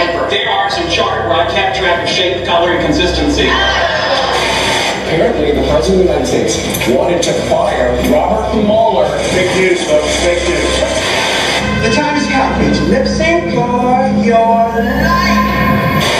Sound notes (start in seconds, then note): 4.3 TV Static; 10.8 TV Static; 15.9 TV Static